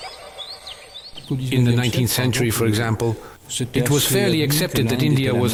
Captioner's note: French spoken audio